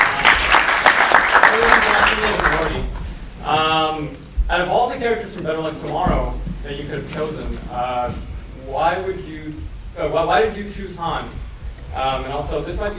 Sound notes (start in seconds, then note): 0.0 audience applause